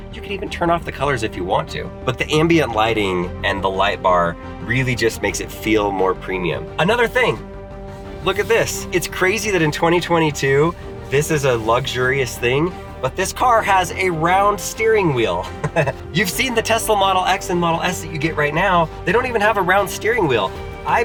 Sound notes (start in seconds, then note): 15.4 chuckles